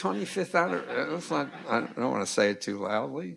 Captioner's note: crowd laughing